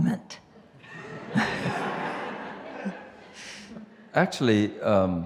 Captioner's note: audience laughs